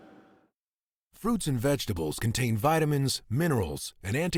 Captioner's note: voiceover